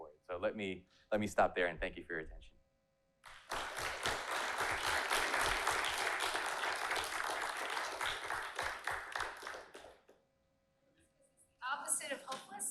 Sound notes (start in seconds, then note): 3.2 applause